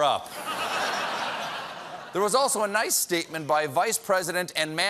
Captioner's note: laughter